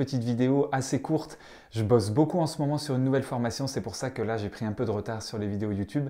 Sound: in french

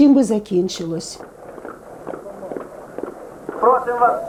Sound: knock of helmets

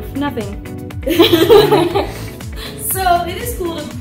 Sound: laughter

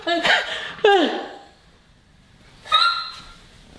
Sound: laughing

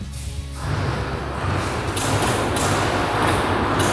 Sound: machine clacking

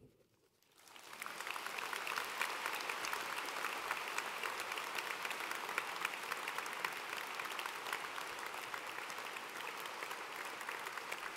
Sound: applause and cheering

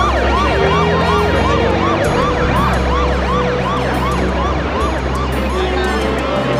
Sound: sirens blaring

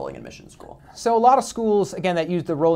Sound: voiceover

